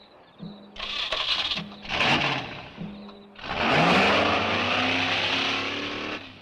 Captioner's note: engine rumbles; engine cranks